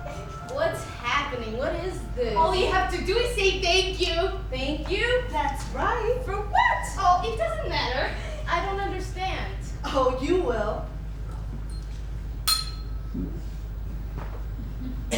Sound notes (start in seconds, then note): 12.4 ding